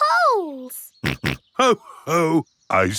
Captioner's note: snorts